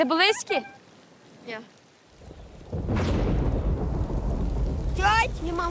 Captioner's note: thunder get louder